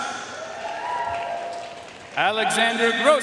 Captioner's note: audience cheering and applauding